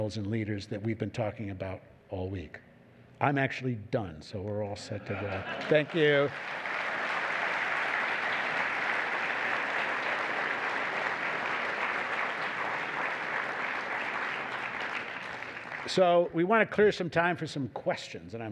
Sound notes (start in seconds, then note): 7.3 applause